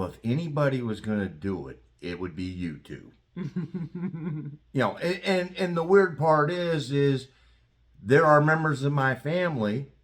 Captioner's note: laugh